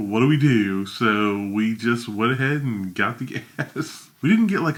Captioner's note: laughs